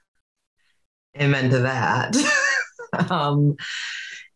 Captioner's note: laughs